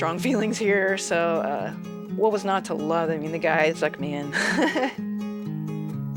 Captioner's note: laughter